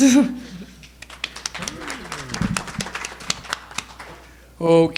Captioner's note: audience applauding